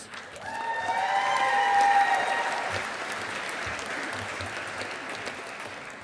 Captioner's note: audience applauding